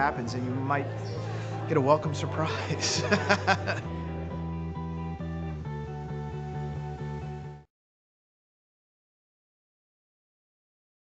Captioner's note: laughs